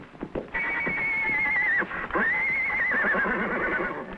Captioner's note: horse whinnying